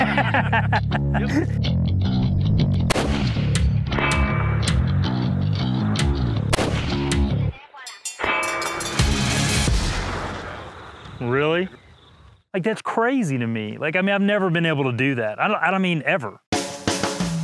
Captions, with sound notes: (rifle firing) (upbeat music) Really? Like that's crazy to me. Like, I mean, I've never been able to do that. I don't mean ever.